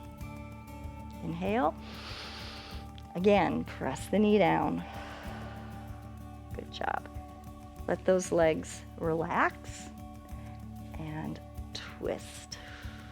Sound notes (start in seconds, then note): 1.8 inhales; 4.7 exhales; 12.6 exhales